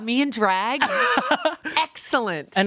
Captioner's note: laughs